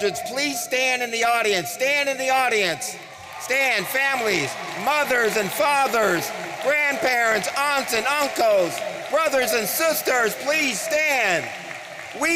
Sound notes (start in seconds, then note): 3.1 audience cheering